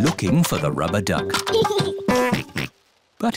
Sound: giggles and oinks

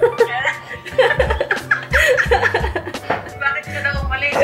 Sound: laughs

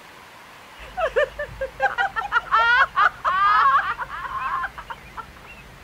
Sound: laugh

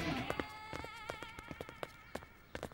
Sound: footsteps

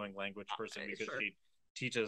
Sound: doubtful noises

